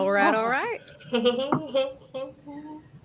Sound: laughter

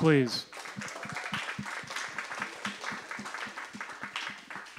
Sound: applause

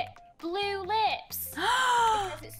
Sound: gasp

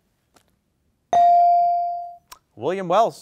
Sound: bell dings

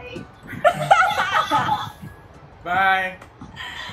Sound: all laughing

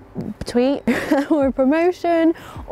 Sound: laughing

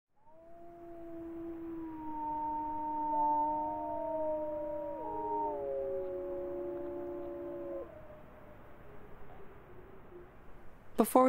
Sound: wolves howling together

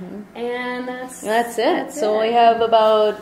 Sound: voiceover

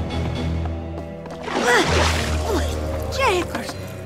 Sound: water splashes

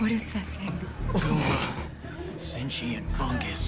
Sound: both laugh

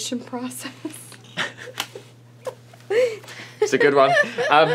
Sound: laughing

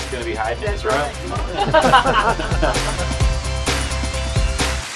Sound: all laugh

